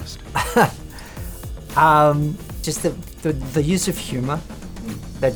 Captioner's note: laughs